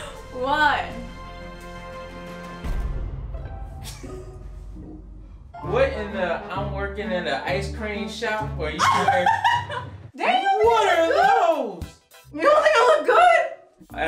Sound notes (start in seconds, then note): 8.8 laughing